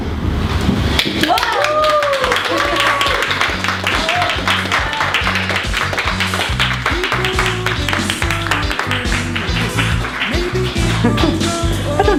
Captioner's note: applause and cheers